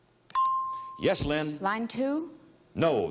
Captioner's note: bell dinging